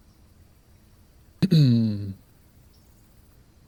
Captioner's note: clears throat